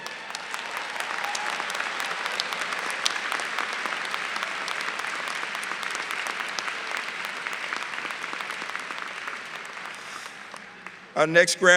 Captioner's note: applause